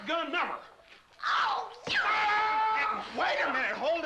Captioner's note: screams